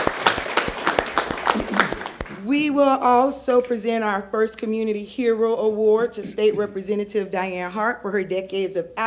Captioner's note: applause